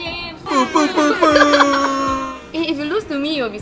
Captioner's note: club horns